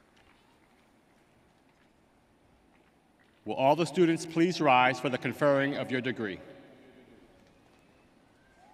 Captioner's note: applause